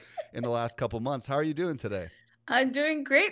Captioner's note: giggling